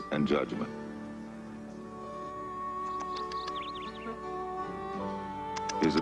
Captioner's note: music, Phineas clicks tongue